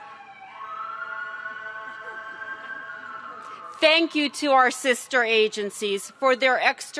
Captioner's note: sirens